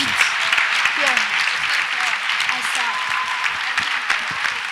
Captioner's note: audience applauds